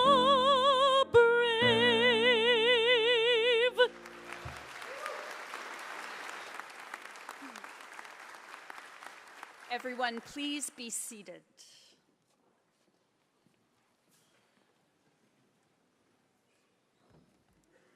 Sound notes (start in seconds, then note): 3.8 applause